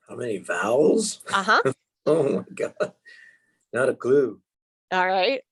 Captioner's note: chuckles